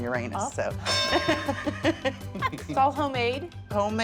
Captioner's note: laughter